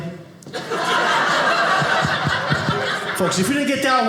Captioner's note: audience laughing